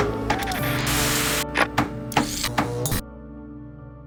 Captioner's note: static crackles